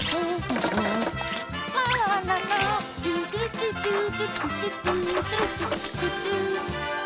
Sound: humming

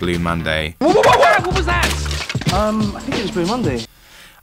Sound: man shouts

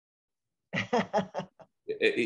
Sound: laughs

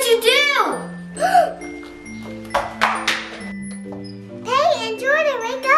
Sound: gasps

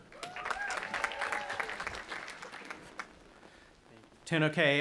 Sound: audience applauding and cheering

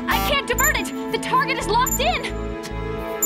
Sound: electronic buzz

